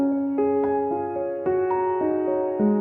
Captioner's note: none